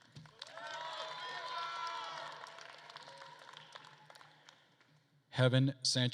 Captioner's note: attendees applauding and cheering